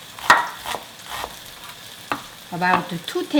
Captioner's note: knife tapping